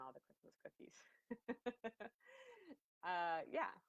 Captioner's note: laughs